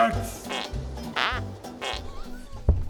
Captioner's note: pfffpt